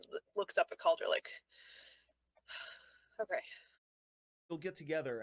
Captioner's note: takes a deep breath